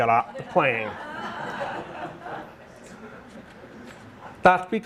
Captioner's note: audience laughing